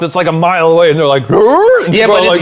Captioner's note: yelping